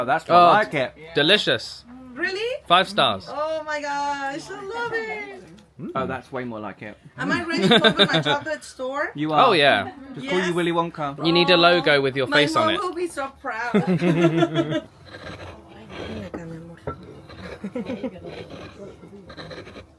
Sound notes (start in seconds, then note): 13.7 both laughing; 16.2 stone grating